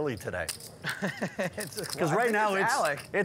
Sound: laughing

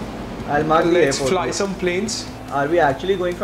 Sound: speaking foreign language

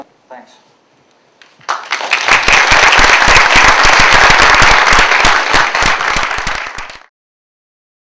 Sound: applause

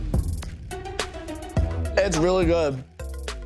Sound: Tana giggling; upbeat hip hop music

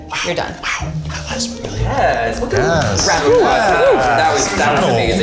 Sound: whispering

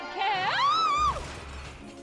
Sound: screams

